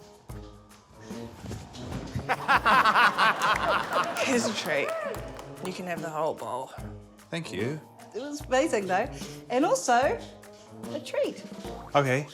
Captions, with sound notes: (LAUGHTER) - Here's a treat. You can have the whole bowl. - Thank you. - It was amazing, though. And also, a treat. - OK.